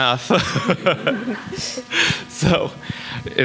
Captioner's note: both laughing